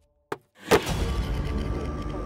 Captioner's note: Trunk of the car closes